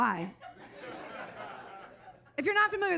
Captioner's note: audience laughs